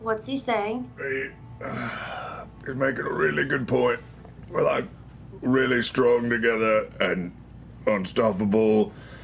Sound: sighs

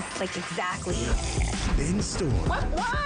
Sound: coffee sip

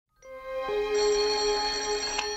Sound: ringing

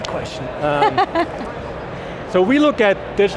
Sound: laughs

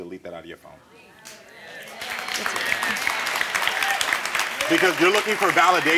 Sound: audience applauding

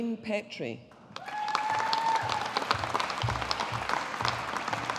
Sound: audience applauding

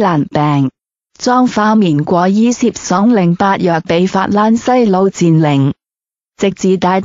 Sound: French

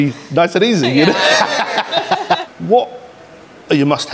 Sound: everyone laughs

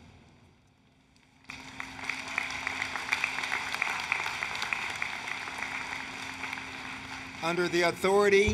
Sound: applause, Cheering

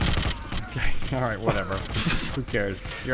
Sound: chuckling

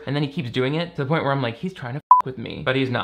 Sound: beep

